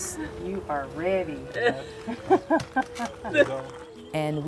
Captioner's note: laughs